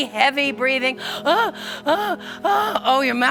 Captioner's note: breathing heavy